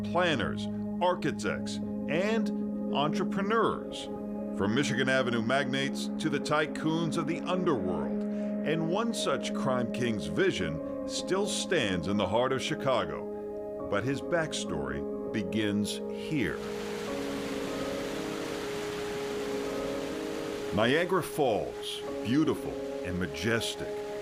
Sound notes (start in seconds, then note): 20.1 water gushing